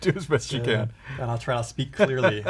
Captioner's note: laughs